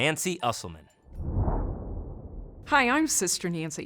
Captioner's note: graphic whooshing